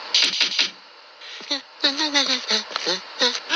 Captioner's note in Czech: Bzučení